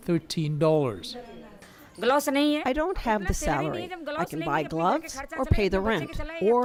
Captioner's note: through translator